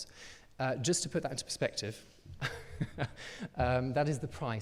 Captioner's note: chuckles